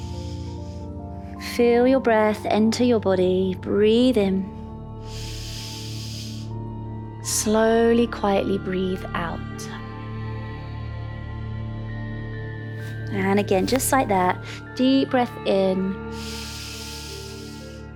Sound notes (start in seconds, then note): 0.0 inhales; 0.1 calm music; 5.0 inhales; 10.7 calm music; 16.1 inhales